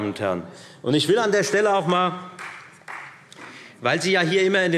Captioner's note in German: Vereinzelter Beifall Freie Demokraten